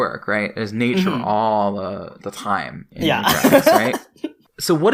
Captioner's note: laughs